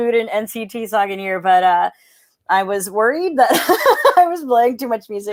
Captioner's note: laughs